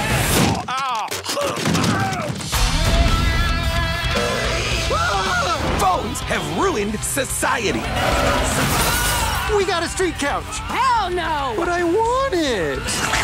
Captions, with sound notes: (GROANS) (YELLS) Phones have ruined society. We got a street couch. Hell no! But I want it.